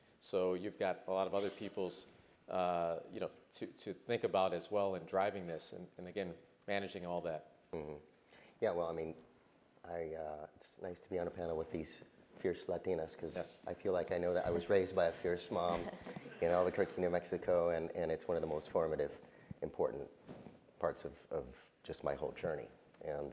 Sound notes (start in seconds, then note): 15.5 laugh